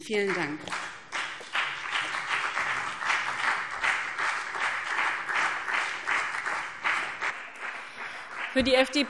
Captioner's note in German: Beifall BÜNDNIS 90/DIE GRÜNEN und CDU